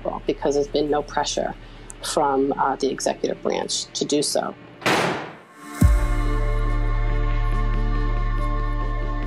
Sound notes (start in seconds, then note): 4.8 door slums; 5.5 soft music